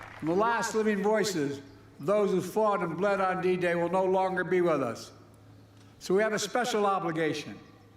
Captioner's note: applause